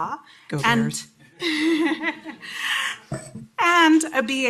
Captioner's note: laughter